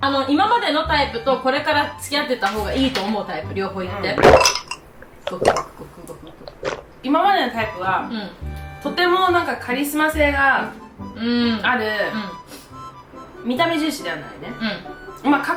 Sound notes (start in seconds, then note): 4.0 glock, glock